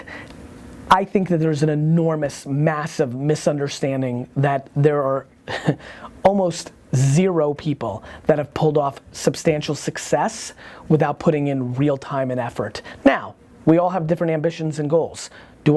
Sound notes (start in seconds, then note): 5.6 scoffs